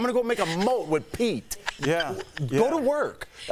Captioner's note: laughter